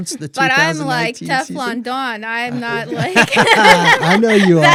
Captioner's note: laughter